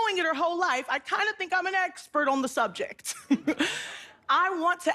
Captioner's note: chuckles